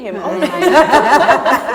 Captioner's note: laughter